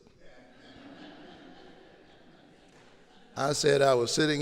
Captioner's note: audience laughing